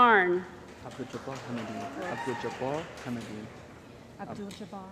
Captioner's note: cheering & Applause